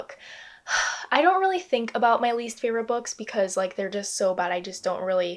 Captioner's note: exhales